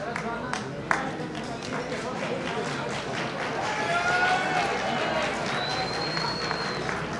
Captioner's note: audience applauding